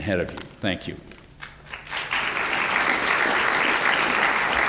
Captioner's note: applause